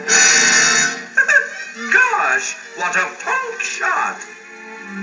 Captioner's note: chuckles